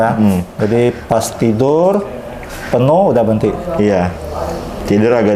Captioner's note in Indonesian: suara tinta dituang